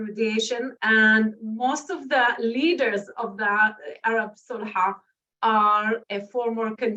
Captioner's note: non-english speech